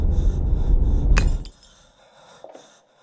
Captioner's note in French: ampoule qui se casse